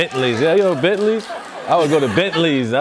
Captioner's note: cheers and applause